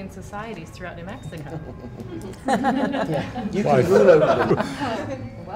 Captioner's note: laughter